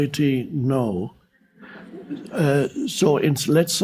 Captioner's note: audience laughing